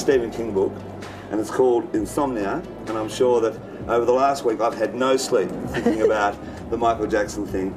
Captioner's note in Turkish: gülüyor